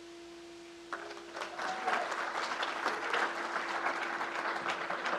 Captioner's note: crowd applauds